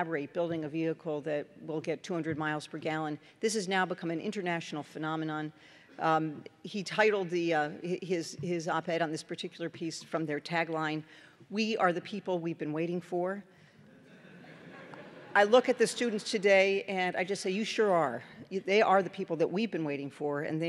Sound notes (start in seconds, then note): 13.9 laughter